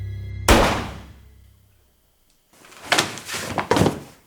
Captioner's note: gun fires